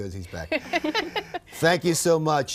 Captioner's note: laughs